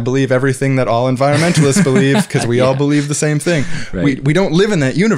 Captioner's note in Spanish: risas